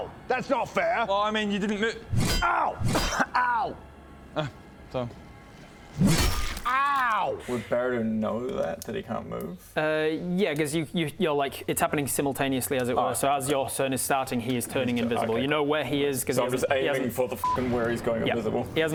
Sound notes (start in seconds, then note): 2.1 clunk